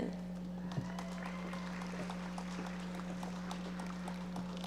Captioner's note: audience applauding